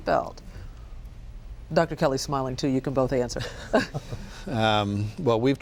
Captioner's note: all chuckle